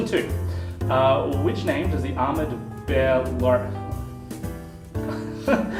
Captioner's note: laughs